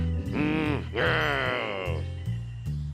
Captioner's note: growls